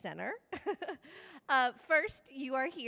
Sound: laughing

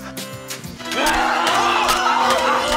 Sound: screaming and stabbing

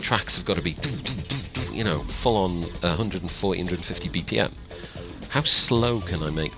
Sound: imitates bassline bumping

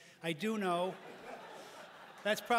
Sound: laughter

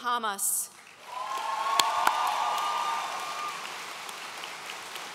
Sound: audience cheering

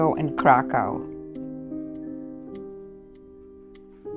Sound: clock ticks

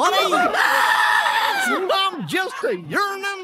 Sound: scream

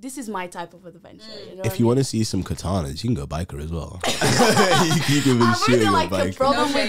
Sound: all laugh

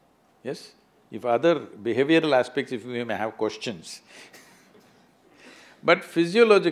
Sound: laughs

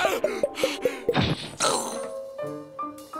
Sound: grunting

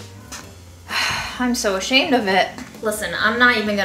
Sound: sighing

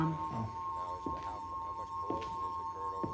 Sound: footsteps

